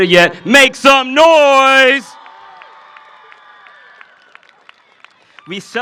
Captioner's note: cheering and applause